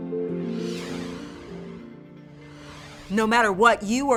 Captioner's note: gentle music; graphics whoosh